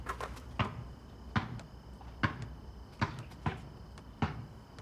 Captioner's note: ball dribbling